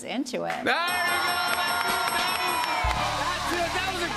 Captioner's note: dinging